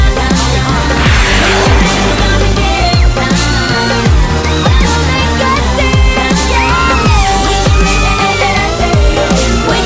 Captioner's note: Sweet Polly Screams